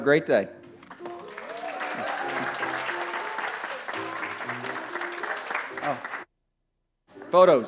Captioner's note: applause